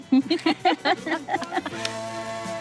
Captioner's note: both laughing; light music